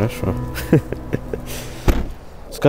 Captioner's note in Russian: смех